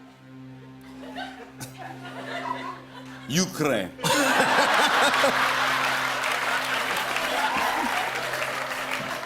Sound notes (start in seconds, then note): 3.0 Ukrainian accent; 4.0 laughter